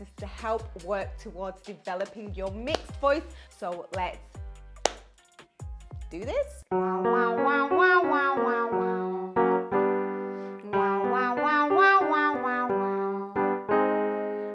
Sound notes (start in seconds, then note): 4.8 claps; 6.6 piano plays